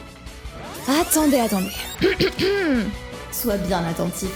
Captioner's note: clears throat